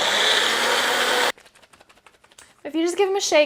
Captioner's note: blender sound